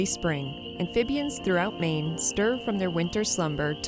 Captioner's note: peaceful music; insects chirping